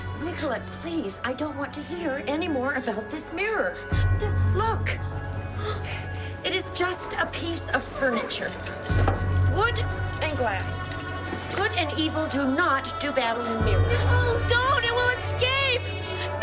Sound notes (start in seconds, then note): 5.1 Marlee gasping; 10.6 metal rattling